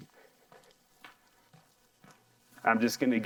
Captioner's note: soft footsteps